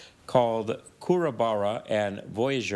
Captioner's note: speaking in foreign language